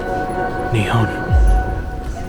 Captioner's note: softly, almost a whisper